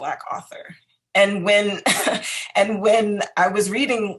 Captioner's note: laughs